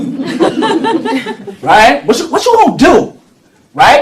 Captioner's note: laughter